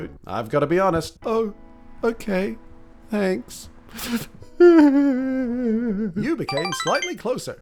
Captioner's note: sob